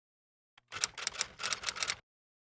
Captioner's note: typewriter Noises